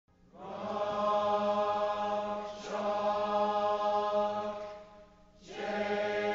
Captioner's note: Students recite the KU chant